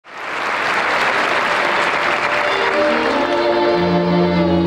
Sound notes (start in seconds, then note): 0.0 audience applauds; 1.4 orchestral music